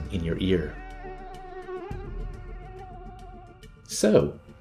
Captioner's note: mosquito buzzing